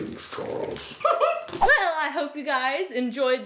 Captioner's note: laughs